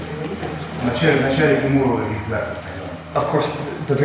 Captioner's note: speaking in a foreign language